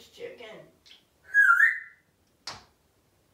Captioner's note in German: whistling